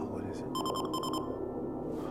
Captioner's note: alarm beeps